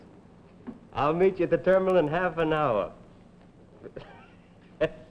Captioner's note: chuckles